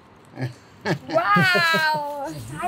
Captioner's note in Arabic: ضحك